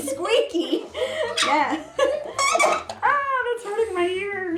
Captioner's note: squeaking